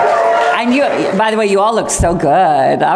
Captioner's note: cheering